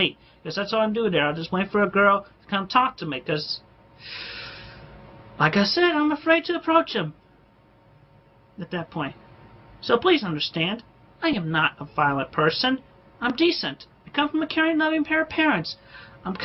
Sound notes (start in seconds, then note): 4.0 inhales sharply